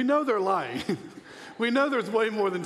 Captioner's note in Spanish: risas